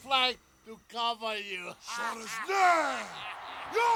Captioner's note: laughs